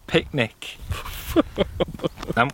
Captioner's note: laughs